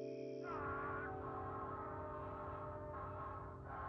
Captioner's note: Movie playing on laptop